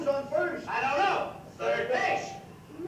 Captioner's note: said together